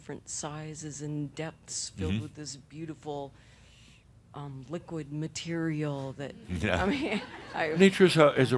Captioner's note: some chuckles